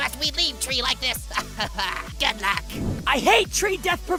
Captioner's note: Golf Ball laughs